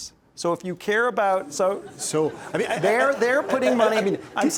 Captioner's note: laughs